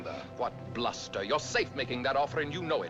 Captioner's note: none